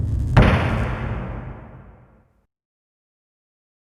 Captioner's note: air whooshing; wood slamming